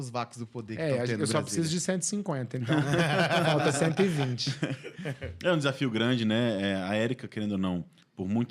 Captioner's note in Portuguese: risadas